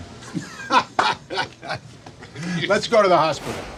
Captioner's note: laughing